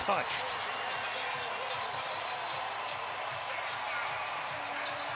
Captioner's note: cheering